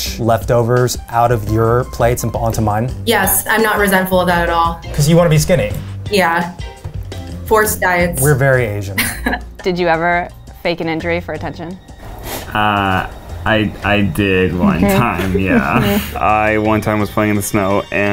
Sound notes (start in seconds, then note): 8.9 woman laughs